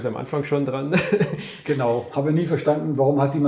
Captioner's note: laughs